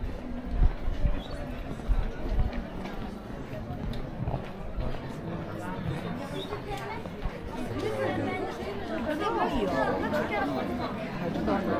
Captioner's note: people chattering